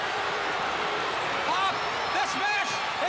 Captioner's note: crowd chatter